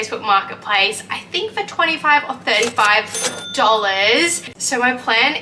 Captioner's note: cash register chimes